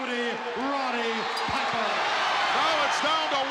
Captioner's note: audience cheering